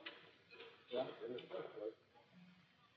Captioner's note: chatter